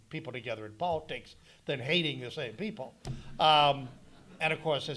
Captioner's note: audience laughing